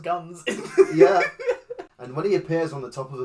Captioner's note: laughs